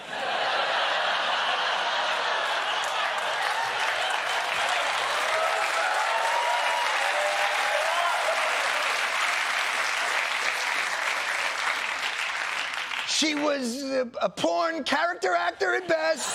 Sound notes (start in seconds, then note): 0.0 laughter; 3.6 applause